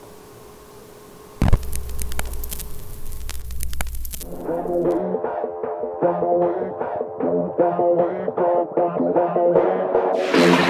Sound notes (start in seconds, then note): 1.4 record scratch and pops; 4.1 low fidelity music playing